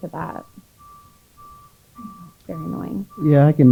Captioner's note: vehicle noises outside